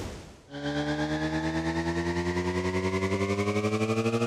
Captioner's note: motor revving